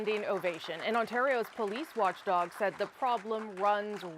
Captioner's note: cheers and applause